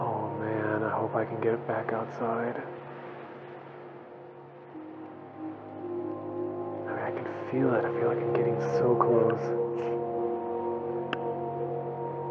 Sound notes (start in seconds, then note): none